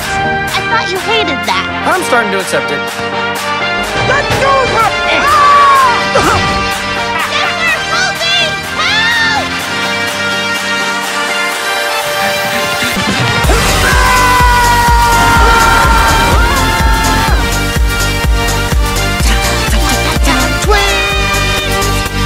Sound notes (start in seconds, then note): 4.3 shouting; 7.5 yelling; 12.2 Dipper panting, yells; 13.8 Dipper and Mabel yelling